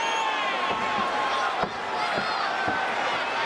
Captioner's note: audience cheers